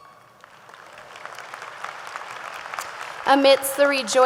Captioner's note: audience applauding